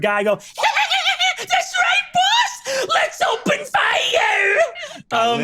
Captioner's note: laughs